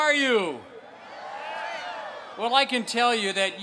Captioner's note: crowd cheers